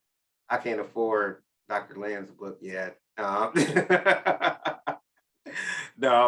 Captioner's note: laughs